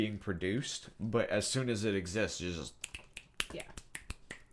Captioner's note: snapping